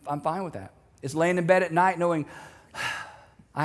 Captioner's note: sighs